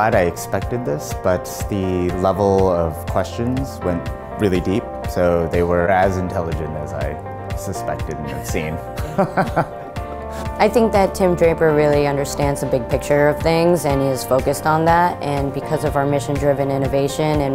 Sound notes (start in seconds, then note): 9.0 laughs